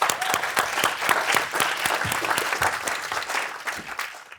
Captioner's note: applause